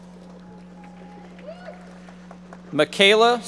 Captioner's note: audience members applauding